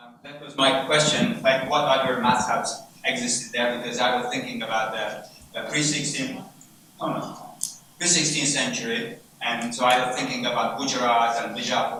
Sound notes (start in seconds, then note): 6.5 assistant speaks away from mic